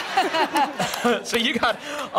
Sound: laughter

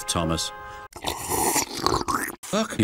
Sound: Percy slurps his beer

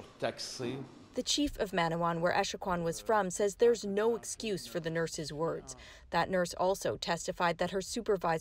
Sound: speaking French

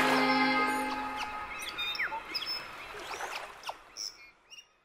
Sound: water splashing; birds chirping

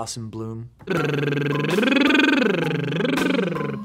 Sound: buzzing

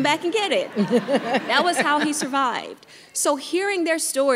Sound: everyone laughing

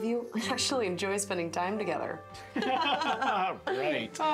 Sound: forced laughter

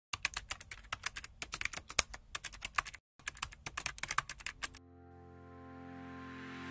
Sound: key strokes

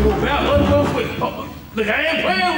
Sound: knocking

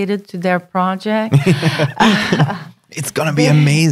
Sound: laughing

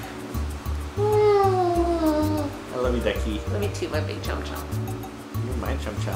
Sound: hums

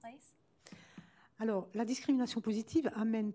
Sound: speaking french

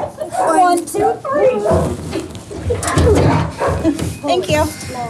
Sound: grunting

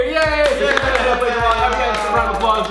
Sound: they applaud

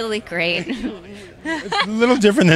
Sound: laughing

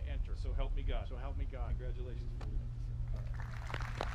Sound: audience applauding

